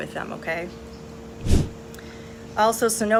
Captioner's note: air whooshes